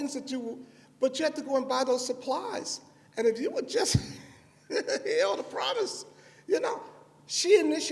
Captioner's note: laughs